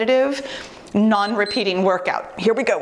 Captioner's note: timer beeps